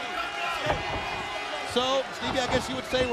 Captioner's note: crowd members shouting indistinctly